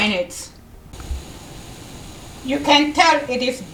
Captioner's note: quinoa boiling